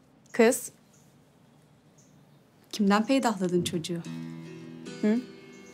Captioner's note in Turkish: none